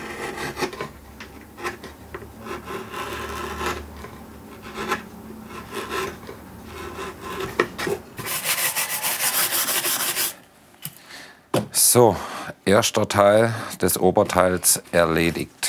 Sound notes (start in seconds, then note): 3.9 carving noises